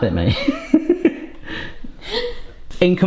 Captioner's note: both laughing